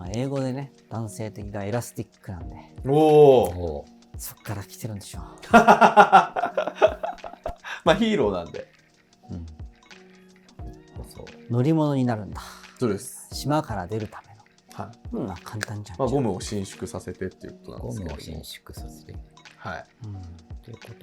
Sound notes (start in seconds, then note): 5.5 laughing